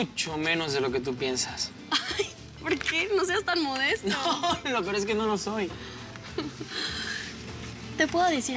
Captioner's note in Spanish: Risas